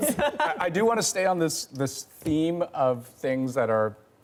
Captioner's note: laughter